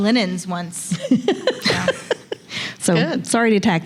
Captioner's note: laughs